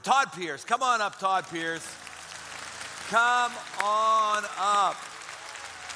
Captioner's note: applause